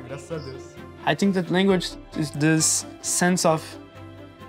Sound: in English

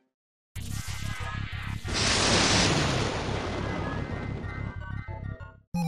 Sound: crashing thunder

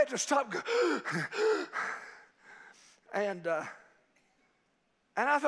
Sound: mimics hyperventilating

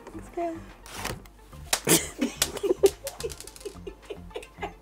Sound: everyone laughing

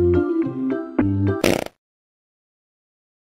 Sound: gross fart

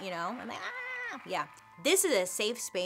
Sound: cheering

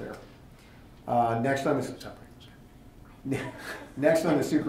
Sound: whispering

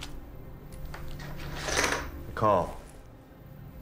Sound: chips clinking

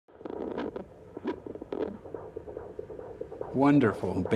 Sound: strong sound of heartbeat

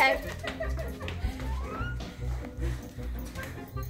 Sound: laughs

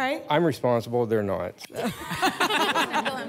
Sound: laughter

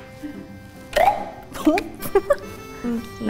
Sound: toy pops; laughs

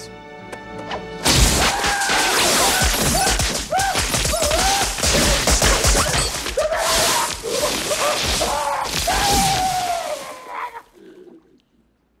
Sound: screaming

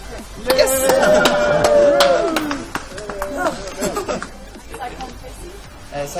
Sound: applause

